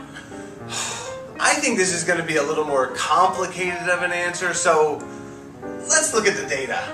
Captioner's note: sigh